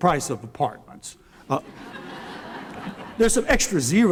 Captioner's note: laughter